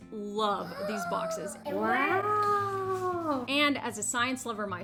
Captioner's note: child gasps